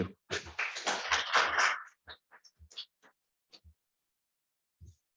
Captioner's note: applause